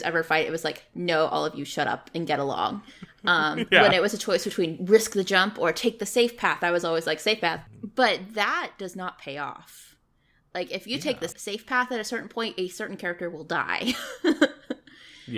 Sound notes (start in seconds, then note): 3.2 laughs